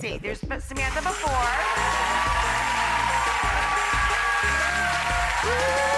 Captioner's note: cheering and clapping